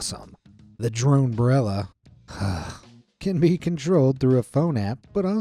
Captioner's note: sighs